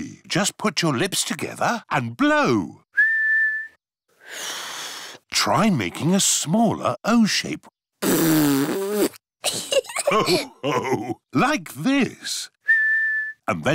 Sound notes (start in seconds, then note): 2.9 whistles; 3.0 failed whistle; 8.0 blows raspberry; 9.4 laughter; 12.6 whistles